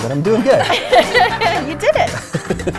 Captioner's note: laughing